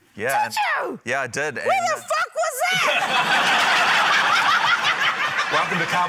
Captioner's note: laughter